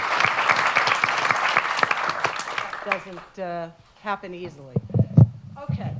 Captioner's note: applause